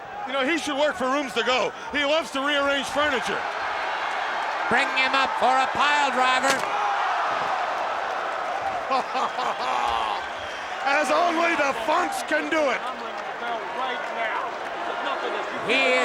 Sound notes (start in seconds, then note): 6.9 applause; 8.8 laugh; 13.3 applause